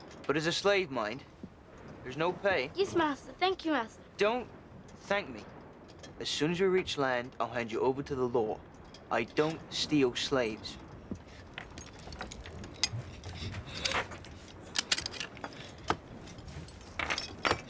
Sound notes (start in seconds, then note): 12.3 boy gasping; 12.3 clicking